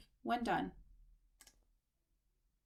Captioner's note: click